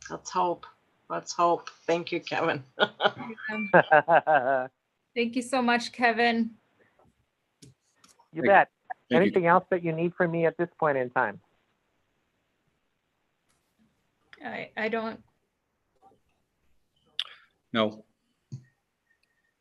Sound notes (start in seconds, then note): 2.6 laughs; 2.7 laughing